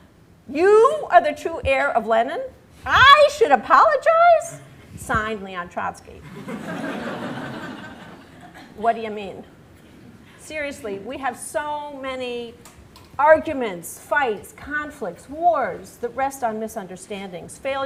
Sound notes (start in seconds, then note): 6.2 laughter